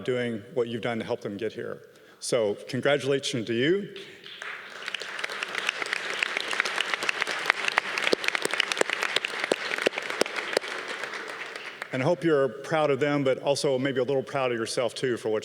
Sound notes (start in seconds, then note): 4.2 audience cheering